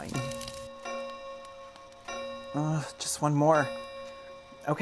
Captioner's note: grandfather clock chimes